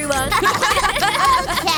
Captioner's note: laughter